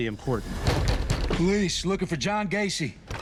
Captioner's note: knocking